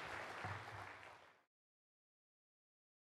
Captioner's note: clapping